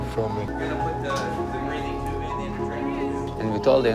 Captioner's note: people chattering